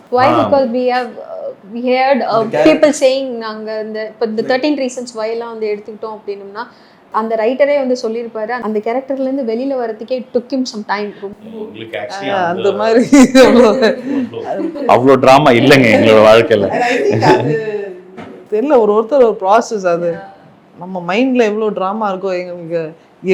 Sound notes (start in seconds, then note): 12.3 laughs